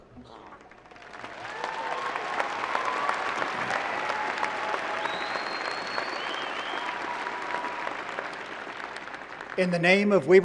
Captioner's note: applause